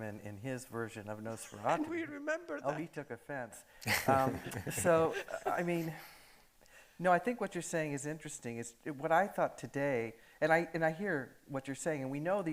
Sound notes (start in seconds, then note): 3.9 audience laughing